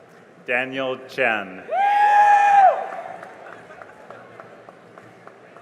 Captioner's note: cheering and applause